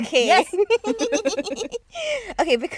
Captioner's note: girls giggling